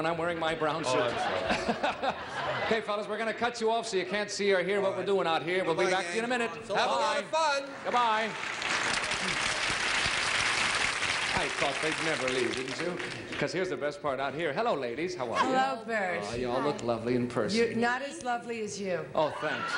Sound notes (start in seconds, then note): 0.8 laughter; 7.8 applause; 18.4 laughter